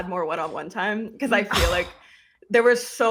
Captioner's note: scoffs